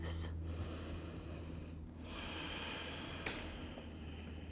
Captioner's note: breathing